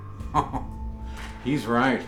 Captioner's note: Micajah chuckles